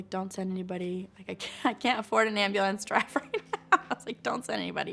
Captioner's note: laughs